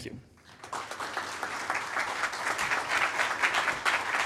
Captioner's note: attendees applaud